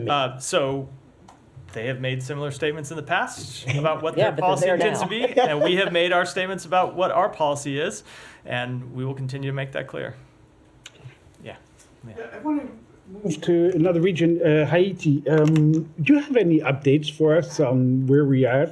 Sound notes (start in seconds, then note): 3.6 laughter